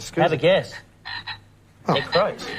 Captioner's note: croaks